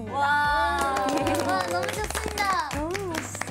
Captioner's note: applause